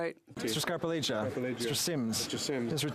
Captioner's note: speaking French